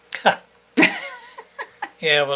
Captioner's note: both laughing